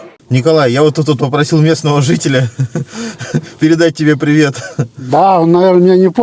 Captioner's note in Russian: смех